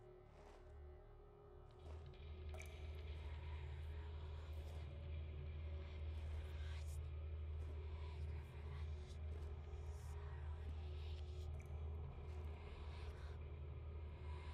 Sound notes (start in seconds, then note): 4.5 ghostly whispering; 4.5 suspenseful music